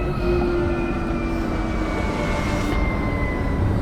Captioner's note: sub whirring